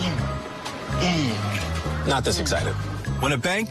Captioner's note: grunting